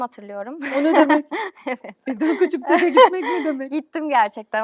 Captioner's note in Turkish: kahkaha